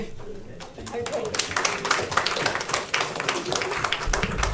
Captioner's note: audience applauding